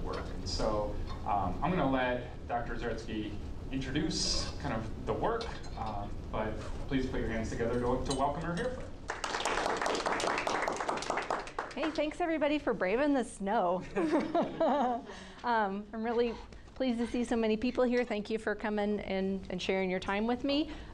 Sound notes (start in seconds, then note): 9.0 class clapping; 13.9 group laughing